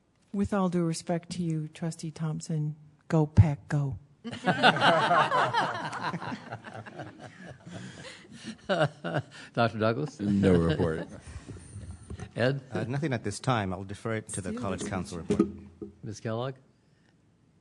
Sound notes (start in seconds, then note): 4.2 laughter